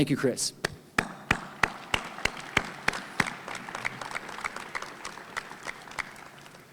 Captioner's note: and audience applauding